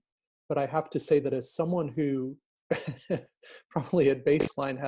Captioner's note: laughing